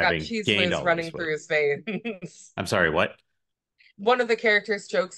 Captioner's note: giggles